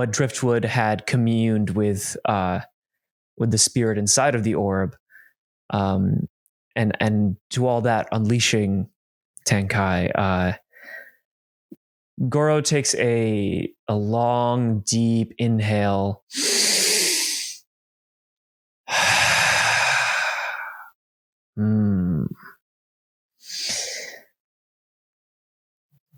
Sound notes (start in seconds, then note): 16.3 Goro breathes in, then exhales